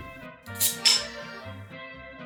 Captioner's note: cap pops off